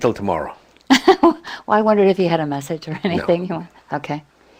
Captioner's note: laugh